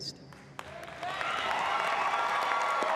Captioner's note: applause